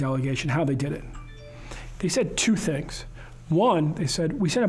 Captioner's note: cell phone notification sound